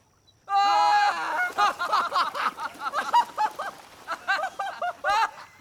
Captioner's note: huge laughter